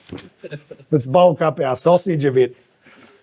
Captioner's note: laughing